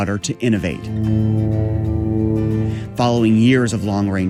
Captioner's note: plane flying